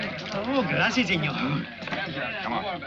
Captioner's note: Diaz speaking in foreign language